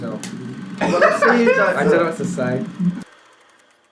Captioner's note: laughs